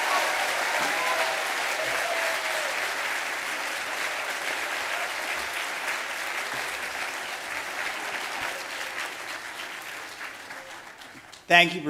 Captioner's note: applause